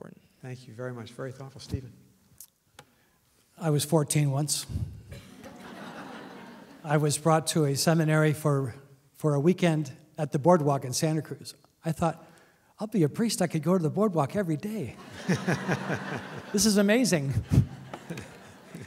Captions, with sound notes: Thank you very much, very thoughtful. Stephen? I was 14 once. [LAUGHTER] I was brought to a seminary for a weekend at the boardwalk in Santa Cruz. I thought I'll be a priest. I could go to the boardwalk every day. [LAUGHTER] This is amazing.